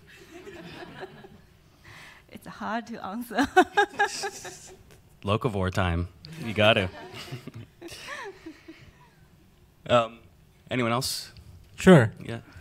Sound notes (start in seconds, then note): 0.3 panelists laugh; 3.4 laughs